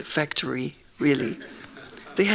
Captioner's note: laughing